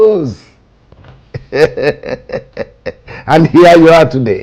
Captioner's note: laughs